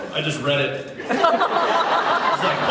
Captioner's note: laughs